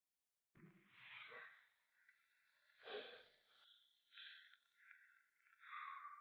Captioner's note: Trask breathes heavily